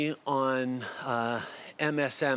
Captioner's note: speaking French